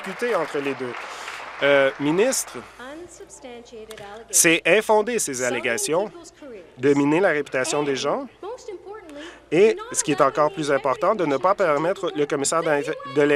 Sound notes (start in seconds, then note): 0.0 applause